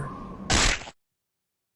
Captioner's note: splat sound